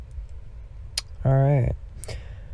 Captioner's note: lip smack